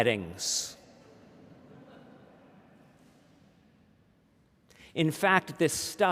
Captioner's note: laughter